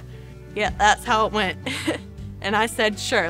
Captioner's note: chuckles